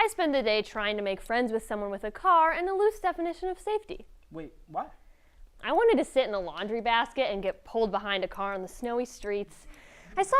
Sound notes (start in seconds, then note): none